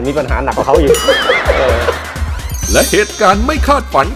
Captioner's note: laughter